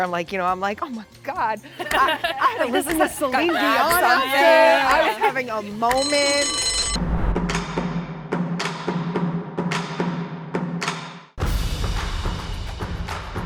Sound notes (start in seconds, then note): 5.7 bell rings; 7.3 percussive music